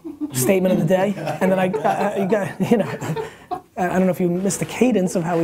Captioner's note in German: lacht